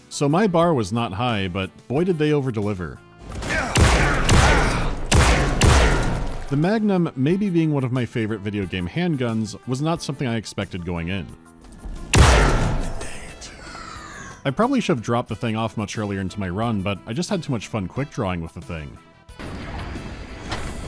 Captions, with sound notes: So my bar was not high, but, boy, did they overdeliver. [*PTEW-PTEW, PTEW-PTEW*] The magnum maybe being one of my favorite videogame handguns was not something I expected going in. [*PTEW*] [dying whisper] I probably should have dropped the thing off much earlier into my run, but I just had too much fun quick-drawing with the thing.